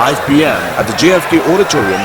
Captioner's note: wild applause and cheering for 22 seconds